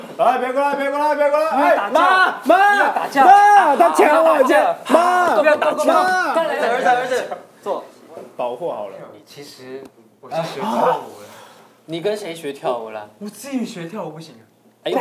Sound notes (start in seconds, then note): 1.9 instinctively shouting; 3.7 instinctively shouting